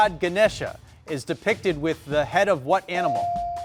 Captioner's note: bell dinging